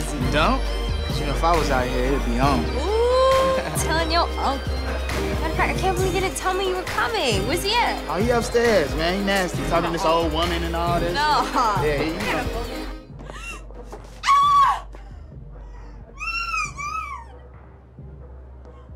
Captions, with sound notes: YOU DON'T? 'CAUSE, YOU KNOW, IF I WAS OUT HERE, IT'D BE ON. OOH! I'M TELLING YOUR UNCLE. MATTER OF FACT, I CAN'T BELIEVE HE DIDN'T TELL ME YOU WERE COMING. - WHERE'S HE AT? - OH, HE UPSTAIRS, MAN. HE NASTY, TALKING TO THIS OLD WOMAN AND ALL THIS. - NAH! - YEAH. [GASPS, SCREAMS] [SQUEALS]